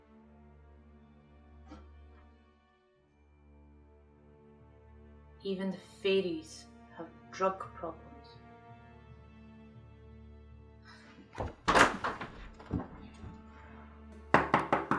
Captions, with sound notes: Even the faeries have drug problems... *knocking*